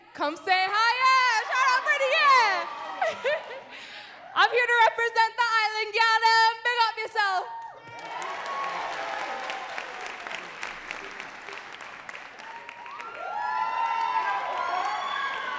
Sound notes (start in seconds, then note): 0.9 crowd cheering and clapping; 3.0 laughing; 7.0 foreign language; 7.5 crowd cheering and clapping